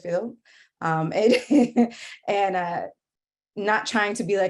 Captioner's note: laughing